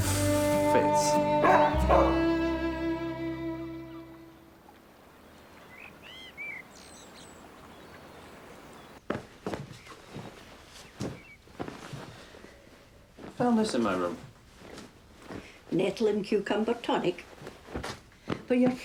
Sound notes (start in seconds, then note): 1.4 dog barking; 5.0 birds singing